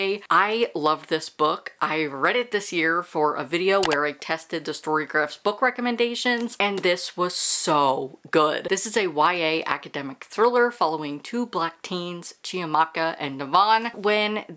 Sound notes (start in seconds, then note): 3.8 mouse click